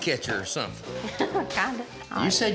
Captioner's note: laughs